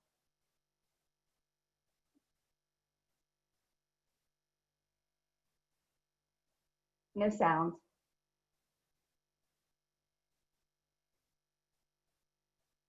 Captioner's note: no sound